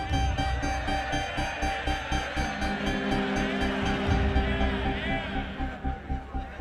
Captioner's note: crowd cheering